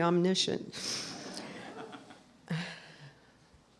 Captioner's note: laughter